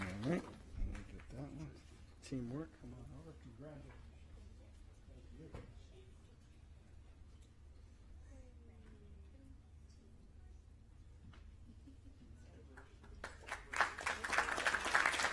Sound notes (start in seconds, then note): 3.3 applause